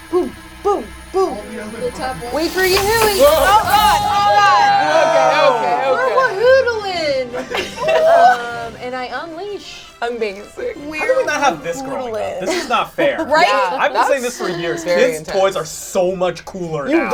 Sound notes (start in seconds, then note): 3.4 all shout